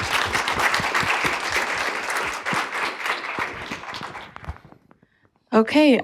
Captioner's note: applause